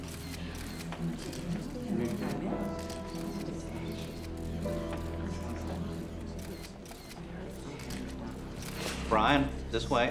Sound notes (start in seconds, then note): 0.8 spectators murmur